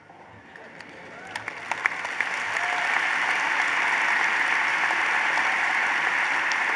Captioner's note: applause